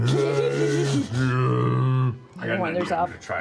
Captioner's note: bear voice